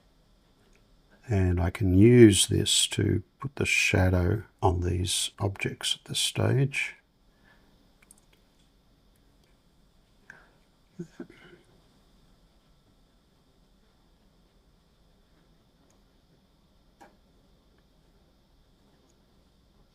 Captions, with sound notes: And I can use this to put the shadow on these objects at this stage. [silence]